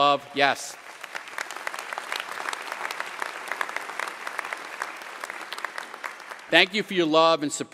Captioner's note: applause